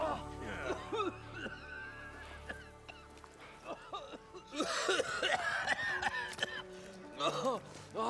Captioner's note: coughing